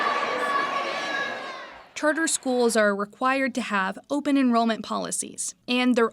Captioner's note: crowd shouting